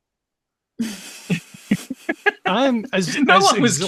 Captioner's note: laughter